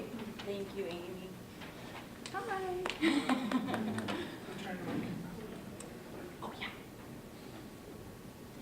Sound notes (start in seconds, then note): 3.0 laughter; 6.4 whispers